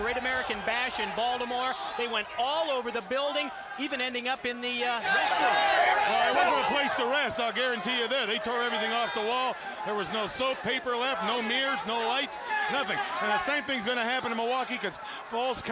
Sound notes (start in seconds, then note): 7.2 crowd cheering